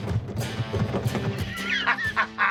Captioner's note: laughs